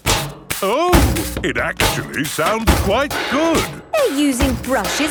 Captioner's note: rhythmic clanging